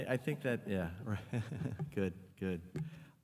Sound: chuckles

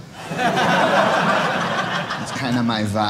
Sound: audience laughing

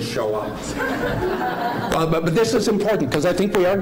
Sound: laughing

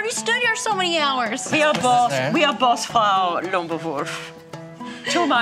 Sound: imitates German accent

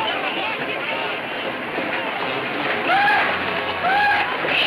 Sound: horses galloping

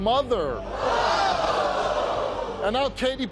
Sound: audience jeers

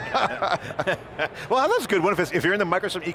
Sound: laughing

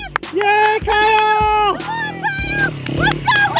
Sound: cheering

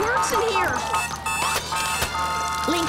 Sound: alarm ringing

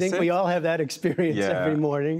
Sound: laughter

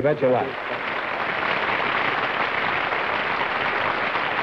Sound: applause

